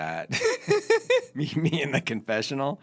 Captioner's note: laughing